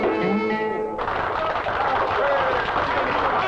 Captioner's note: customers applaud and cheer